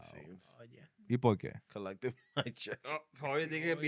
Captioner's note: speaking Spanish